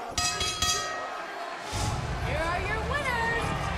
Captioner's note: bell ringing